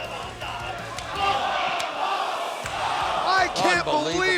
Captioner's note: crowd exclaiming